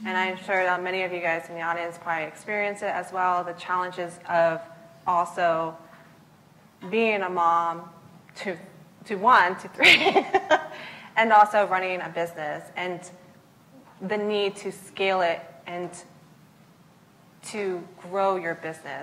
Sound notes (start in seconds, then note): 9.1 laughs